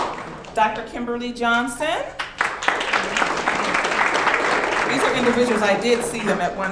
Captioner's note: audience clapping